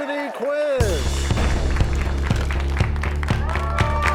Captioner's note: crashing sound